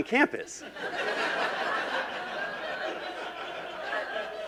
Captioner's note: laughing